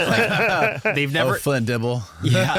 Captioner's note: laughing